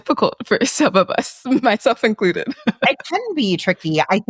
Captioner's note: laughs